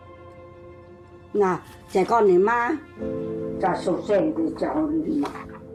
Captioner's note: speaking in foreign language